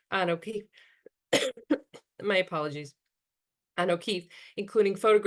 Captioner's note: coughs